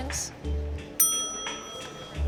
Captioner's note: bell dings